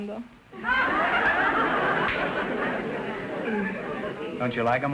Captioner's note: audience laughter